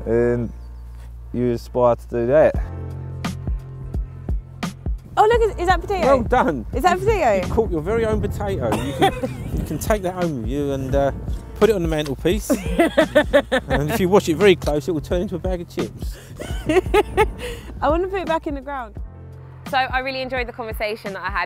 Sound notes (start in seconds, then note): 16.1 laughing